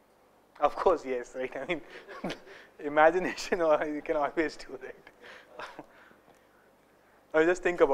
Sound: laugher; laughter

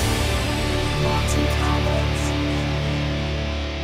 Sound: synthesised voice

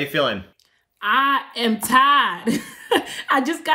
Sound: laughs

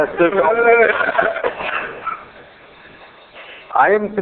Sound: laughter

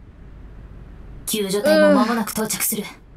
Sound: groans

